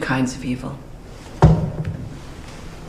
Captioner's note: knock